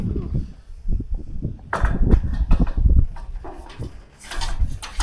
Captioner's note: wind blowing